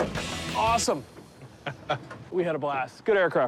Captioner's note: laughs